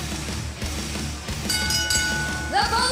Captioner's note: bell ringing